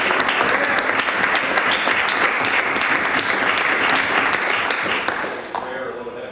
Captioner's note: some Applause